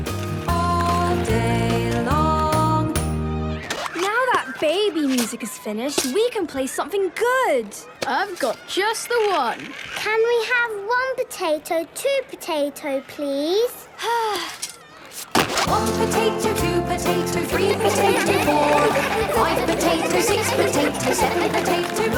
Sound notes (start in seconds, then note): 14.0 Belinda sighing; 17.4 laughter